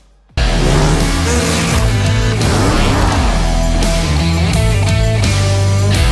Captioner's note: upbeat rock music; jet ski engine revving